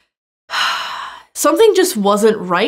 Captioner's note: sighs